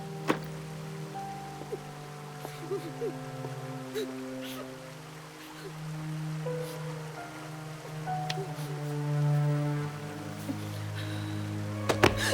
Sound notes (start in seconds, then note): 2.4 Connie crying